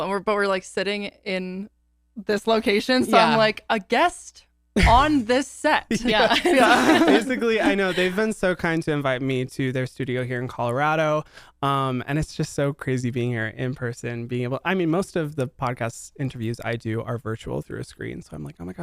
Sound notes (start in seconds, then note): 6.0 everyone laughs